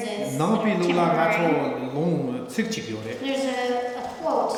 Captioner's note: speaking tibetan